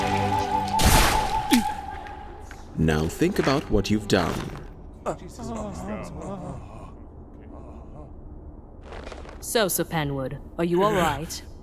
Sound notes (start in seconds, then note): 1.4 grunt of surprise; 4.8 mixed groans of relief and shock